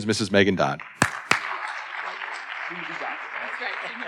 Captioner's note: audience applauding